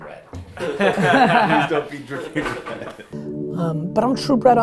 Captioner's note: group laughter